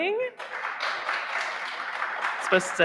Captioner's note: audience applauding